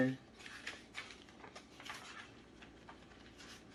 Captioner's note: pages turning